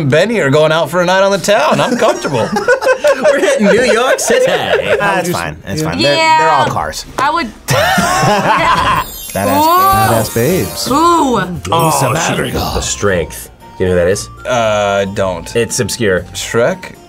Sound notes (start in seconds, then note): 1.7 group laughs; 7.7 both laugh